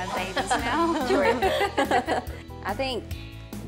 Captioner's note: everyone laughs